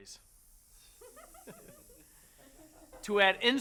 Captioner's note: women giggling